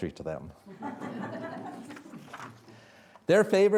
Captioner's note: audience laughing